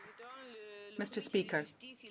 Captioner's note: some Applause